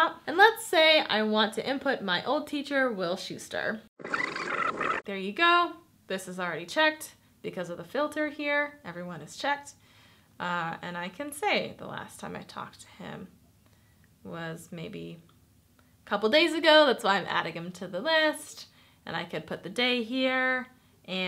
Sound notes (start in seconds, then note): 4.0 tape squeaks